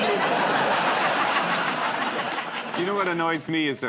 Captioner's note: laughter